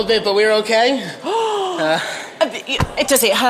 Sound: gasps

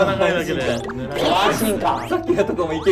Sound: laughs

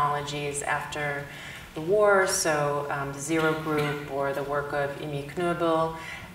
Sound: speaks German

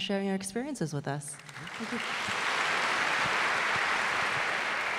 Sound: audience clapping

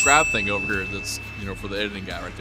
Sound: bell dings

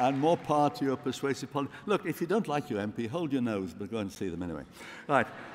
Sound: applause

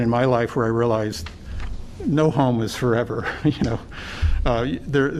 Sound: laughter

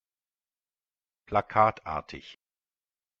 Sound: fast Pronunciation

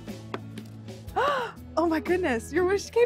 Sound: gasps

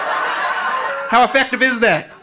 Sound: audience laughing

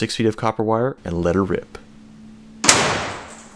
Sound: boom

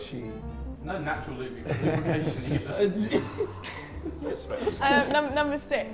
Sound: Simon laughs

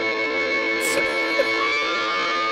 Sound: laughs

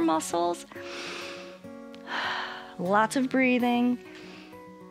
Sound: inhales and exhales

